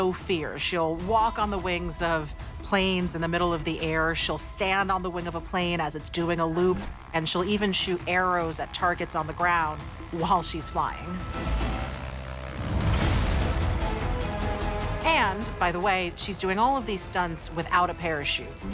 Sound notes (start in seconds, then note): 10.8 dramatic music; 10.8 plane engine roaring